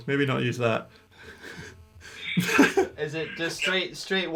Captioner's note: laughing